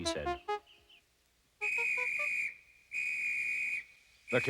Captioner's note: whistle blowing